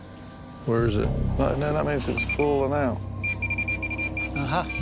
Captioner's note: beeping; rapid beeping